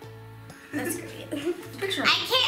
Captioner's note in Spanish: risas